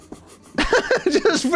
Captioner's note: laughs